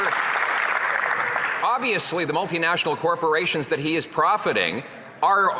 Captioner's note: some Applause